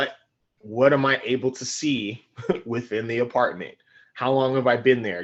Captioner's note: laughing